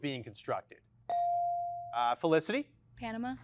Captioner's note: bell chiming